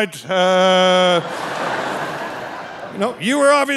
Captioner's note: audience laughing